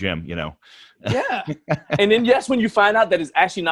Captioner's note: laughs